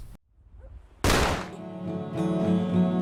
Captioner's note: ending gunshot